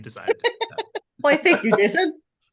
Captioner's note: laughing